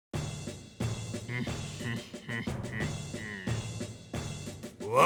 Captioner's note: chuckle